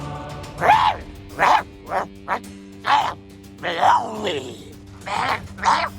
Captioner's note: ferocious growling